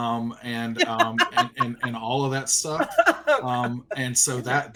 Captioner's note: laughing